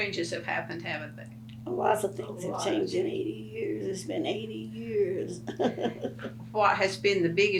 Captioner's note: laughs